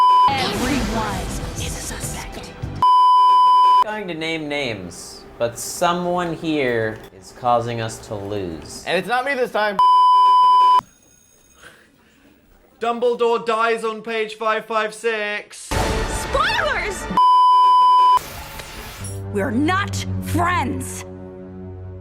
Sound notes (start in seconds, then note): 9.8 beeeeeep; 15.7 dramatic Sting; 17.2 beeeeeep